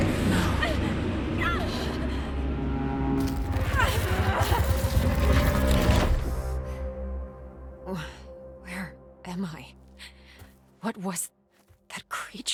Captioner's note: sighs